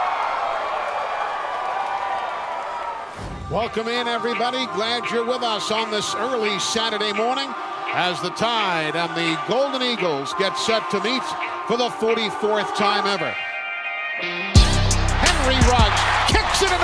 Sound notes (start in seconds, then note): 3.0 determined music; 3.1 air whooshing; 13.3 determined music; 14.2 crowd cheering